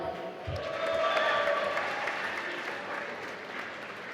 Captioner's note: applause